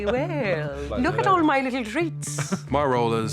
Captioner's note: laughs